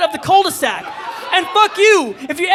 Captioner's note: audience cheering